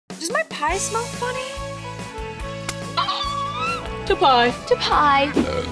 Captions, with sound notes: Does my pie smell funny? [squealing] - To pie. - To pie.